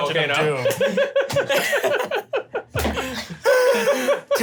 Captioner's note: laughs